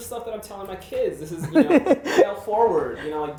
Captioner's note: laughs